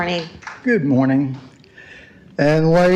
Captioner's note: applause